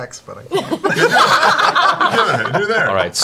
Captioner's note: laughter